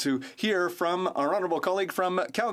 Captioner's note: speaking French